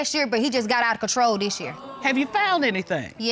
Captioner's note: audience exclaims